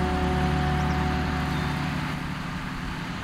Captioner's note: tractor rumbling